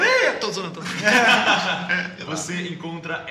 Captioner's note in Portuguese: Risadas